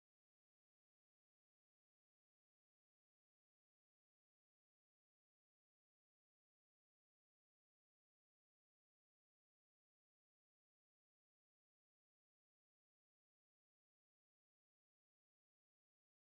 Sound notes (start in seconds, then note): none